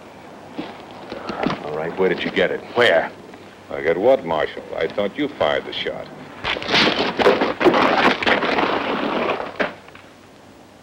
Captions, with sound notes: - All right, where did you get it? - All right, where did you get it? Where? - I got what, Marshal, I thought you fired the shot. (hit booming)